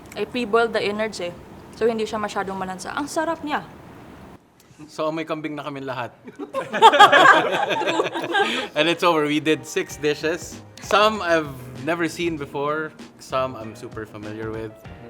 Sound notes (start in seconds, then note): 6.3 laughs